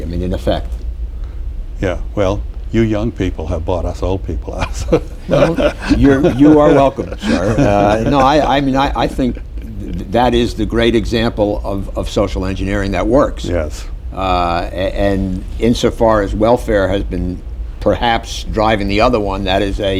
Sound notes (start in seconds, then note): 4.6 laughter